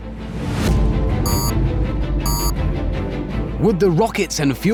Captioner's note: beep, beep